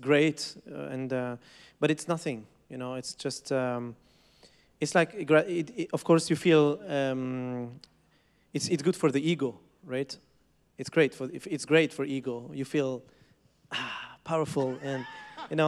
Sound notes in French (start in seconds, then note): 14.4 Rires